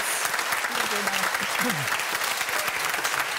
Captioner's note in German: anhaltender Applaus